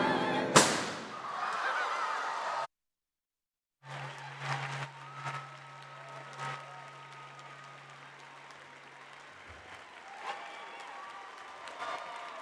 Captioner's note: applause